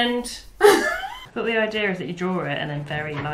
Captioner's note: laughs